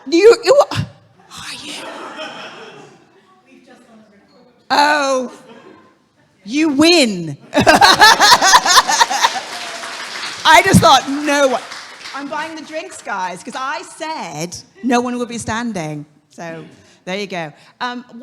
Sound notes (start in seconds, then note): 7.5 audience laughing; 8.3 audience clapping